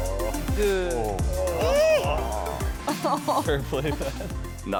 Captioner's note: group groaning